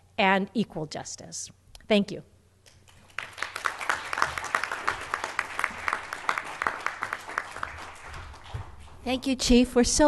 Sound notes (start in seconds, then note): 2.8 applause